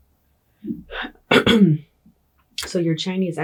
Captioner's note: clears throat